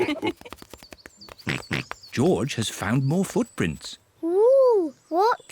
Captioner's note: mummy and daddy pig laugh; oinks